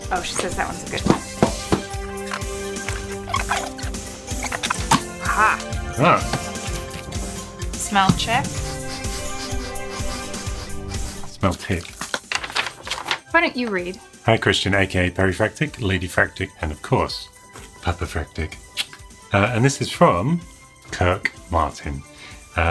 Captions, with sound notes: Oh, she says that one's a good smell. Huh. - Huh. - Smell check. (dog sniffing) - Smell tick. - Why don't you read? - Hi Christian aka Perifractic, Ladyfractic and of course, Puppyfractic. And this is from Kirk Martin.